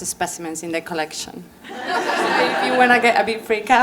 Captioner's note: laughter